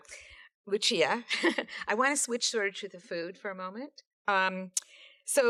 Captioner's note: laughs